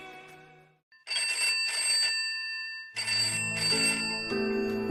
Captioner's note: ring